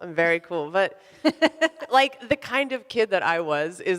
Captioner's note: laughs